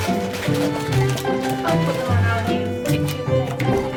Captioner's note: box shuffling